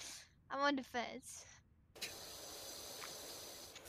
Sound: scoffs

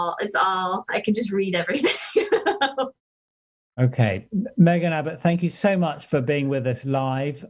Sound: laughter

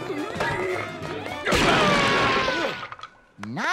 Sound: screaming

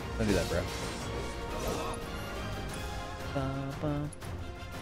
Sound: humming

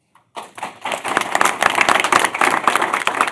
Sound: applause

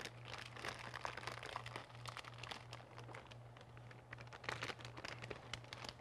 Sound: bag crinkling

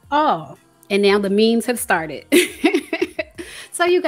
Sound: laughs

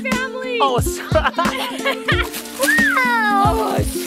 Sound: laughs

